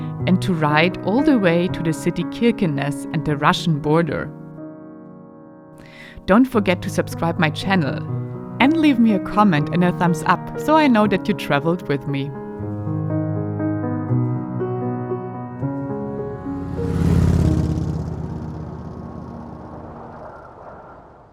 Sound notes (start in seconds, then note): 13.4 piano music; 15.6 motorcycle passing